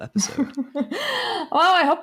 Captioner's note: laughing